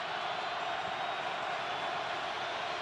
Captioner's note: crowd cheering